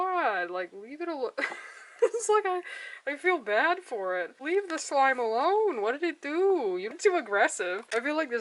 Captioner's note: laughs